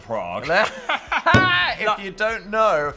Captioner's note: both laugh